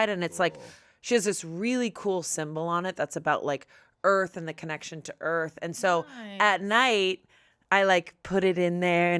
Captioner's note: none